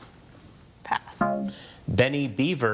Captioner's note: text buzzing